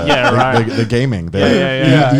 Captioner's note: laughs